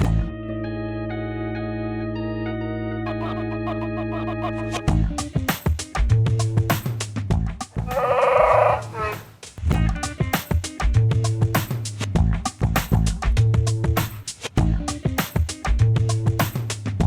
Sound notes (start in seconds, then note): 7.8 Chewbacca growl